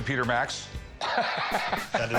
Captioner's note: laughs